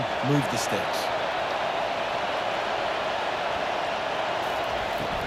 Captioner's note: cheering